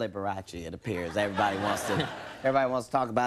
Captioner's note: audience laughing